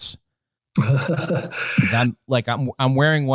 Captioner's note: laughing